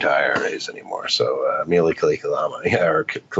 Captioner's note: speaks in foreign language